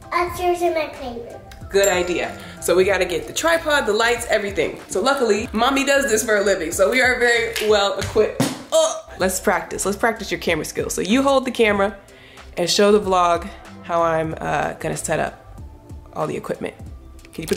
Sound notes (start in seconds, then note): 1.8 dings